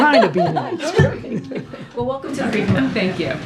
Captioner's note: laughs